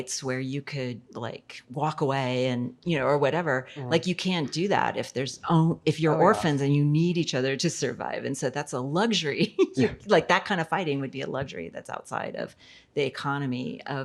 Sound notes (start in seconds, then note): 9.7 laughs